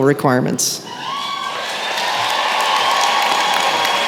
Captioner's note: applause